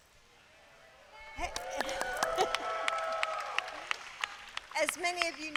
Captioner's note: applause